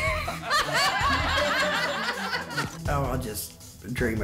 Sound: laughter

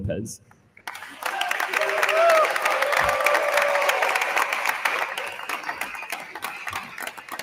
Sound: attendees applauding; attendees cheering

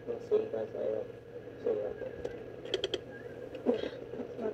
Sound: creaking

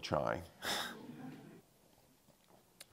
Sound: audience chuckling

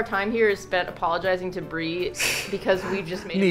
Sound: laughs

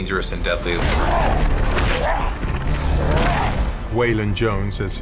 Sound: GRОWLlNG

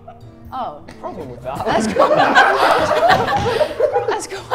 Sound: laugh

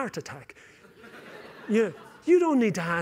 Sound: laughter

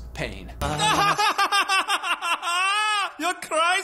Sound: character laughing

